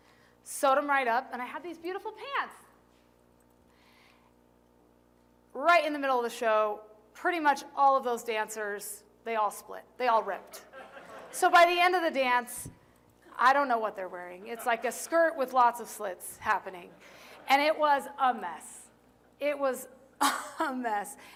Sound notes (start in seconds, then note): 10.4 laughter